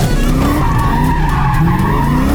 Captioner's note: tires screeching; upbeat music; car engine revving